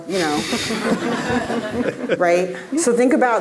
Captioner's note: audience laughing